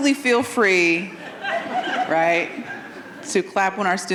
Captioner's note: audience laughing